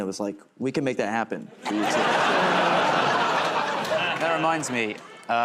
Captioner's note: laughter